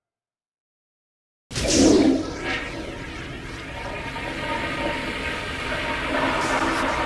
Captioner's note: flush noise